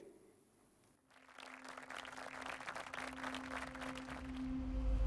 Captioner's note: audience applauding